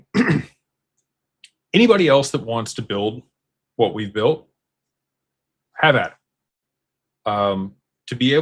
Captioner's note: clears throat